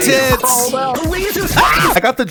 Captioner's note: screams